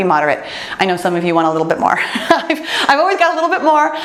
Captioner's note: laughs